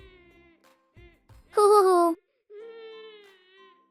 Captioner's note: sob sob sob